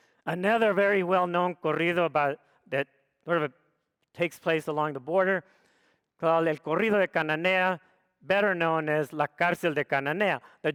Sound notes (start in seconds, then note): 6.4 speaks foreign language